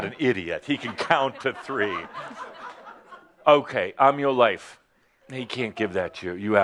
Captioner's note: laughter